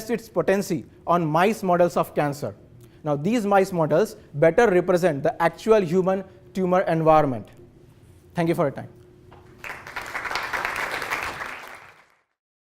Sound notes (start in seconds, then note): 9.4 audience clapping